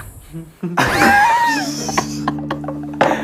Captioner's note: laughing